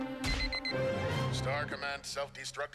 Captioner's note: beeping